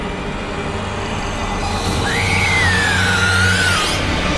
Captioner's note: screams